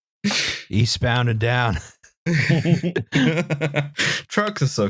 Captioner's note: laughter